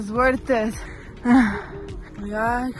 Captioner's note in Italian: rumori di viaggiatrice francese